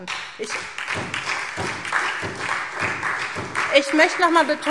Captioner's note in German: Beifall SPD und Freie Demokraten